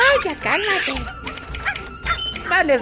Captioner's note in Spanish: sonido de maquina de escribir